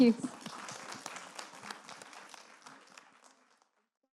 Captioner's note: audience applauding